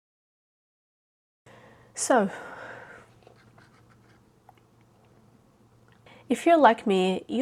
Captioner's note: sips water